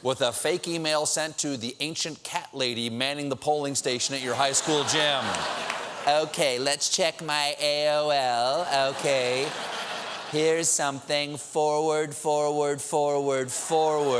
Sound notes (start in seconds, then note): 3.9 laughter